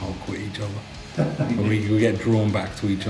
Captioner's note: laughing